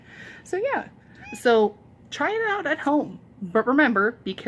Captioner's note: loud meow